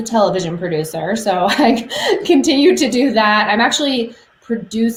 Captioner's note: laughs